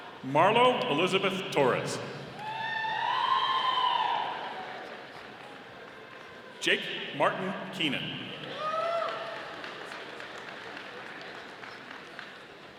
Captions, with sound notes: Marlowe Elizabeth Torres. (audience cheering) Jake Martin Keenan. (audience applauding)